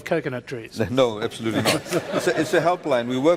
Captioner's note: laughter